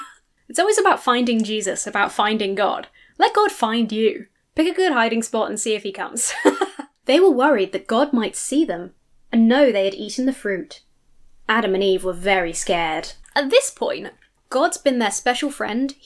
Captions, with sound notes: It's always about finding Jesus, about finding God. Let God find you. Pick a good hiding spot and see if he comes. (laughs) They were worried that God might see them and know they had eaten the fruit. Adam and Eve were very scared. At this point, God's been their special friend.